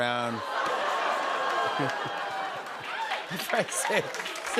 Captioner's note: laughter